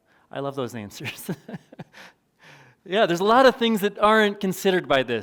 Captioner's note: chuckles